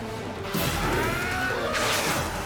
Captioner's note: screams